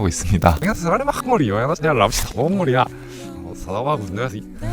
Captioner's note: playing backwards